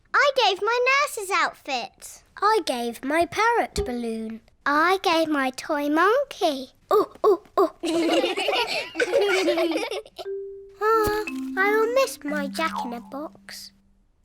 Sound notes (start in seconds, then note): 7.6 children laughing; 7.8 all laugh